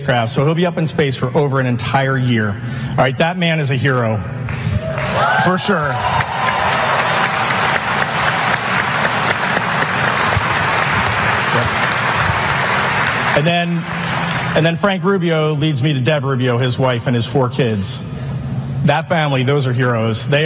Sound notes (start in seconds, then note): 5.7 applause